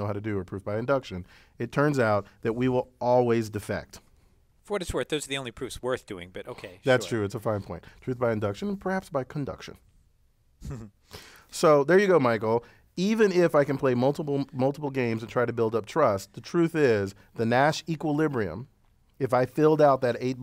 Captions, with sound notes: how to do is proof by induction. It turns out that we will always defect >> For what it's worth, those are the only proofs worth doing. But, okay. >> That's true. It's a fine point. Truth by induction and perhaps by conduction [LAUGH]. So, there you go Michael, even if I can play multiple, multiple games to try to build up trust, the truth is the Nash equilibrium, if I filled out that eight